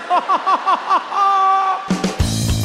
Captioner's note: chuckles; laughs; upbeat music